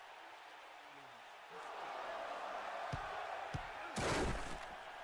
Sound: yelling and crashing

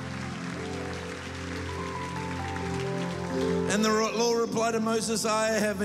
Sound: applause

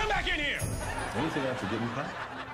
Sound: audience laughter

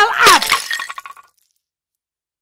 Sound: bone breaks

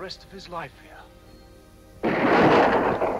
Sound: gun fires

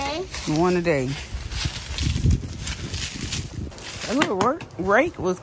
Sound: leaves rustling

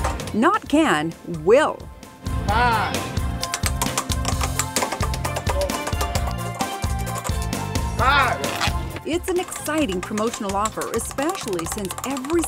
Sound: sound of wheel spinning

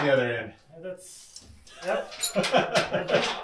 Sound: laughing

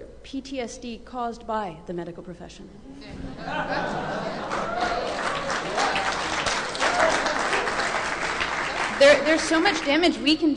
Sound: laughter, applause

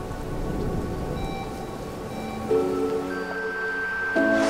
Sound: leaves rustling; beeping; distant cheering

